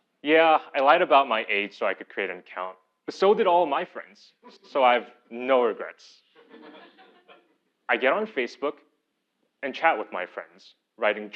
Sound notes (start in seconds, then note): 6.4 laugh